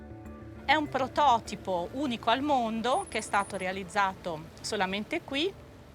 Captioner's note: speaking in foreign language